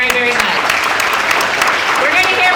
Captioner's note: audience applauding